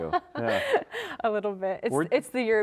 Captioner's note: laughing